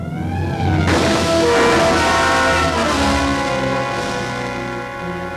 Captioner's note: gun shot